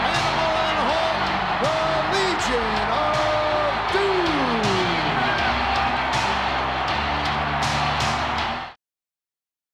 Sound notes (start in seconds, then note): 5.6 crowd cheers; 5.6 intense rock theme music